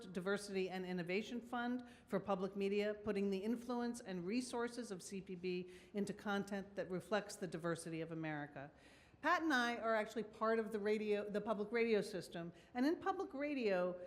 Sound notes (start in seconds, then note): none